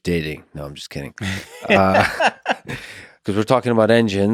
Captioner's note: Tim laughs